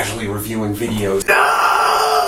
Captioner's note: scream